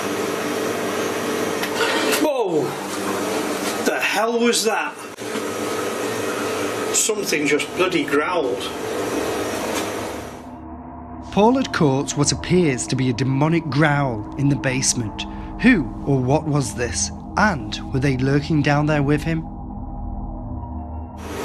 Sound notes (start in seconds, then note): 1.4 metallic scraping